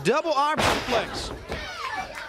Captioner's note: crowd cheering